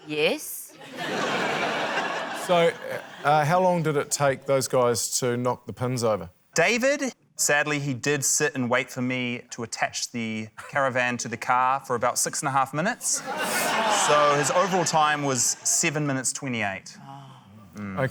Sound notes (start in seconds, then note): 0.7 laughter; 13.1 laughter